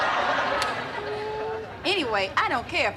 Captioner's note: humming